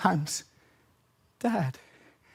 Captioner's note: silent; heavy breathing